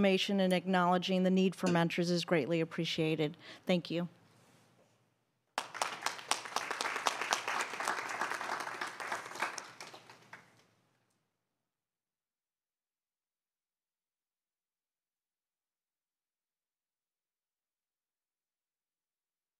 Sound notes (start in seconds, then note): 8.1 applause